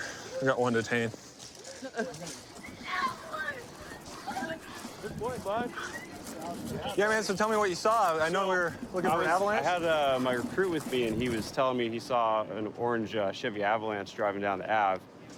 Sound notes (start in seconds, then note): 2.8 yelling